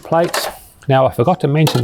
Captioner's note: dishes rattling